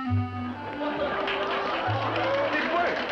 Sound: applause

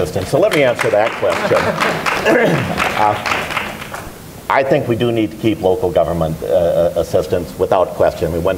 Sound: applause

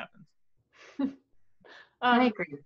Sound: chuckles

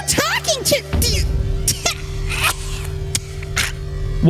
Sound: coughs

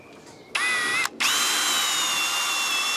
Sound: buzzing

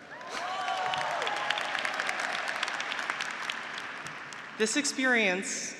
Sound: graduates cheering; graduates applauding

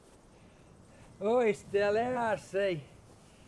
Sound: northern English accent

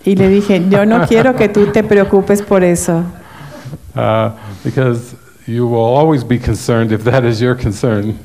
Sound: laughs

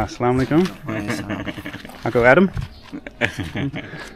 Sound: laughing

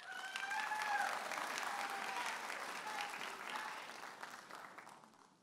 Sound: audience applauding and cheering

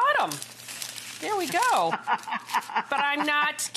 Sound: laughs

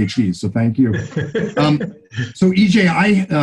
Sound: laughing

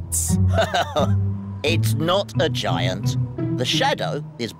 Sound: laughs

